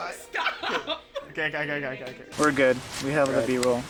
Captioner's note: laughing